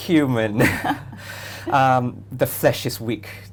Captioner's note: both laugh